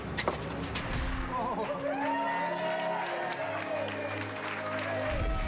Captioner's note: cheering